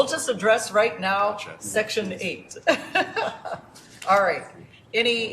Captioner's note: laughter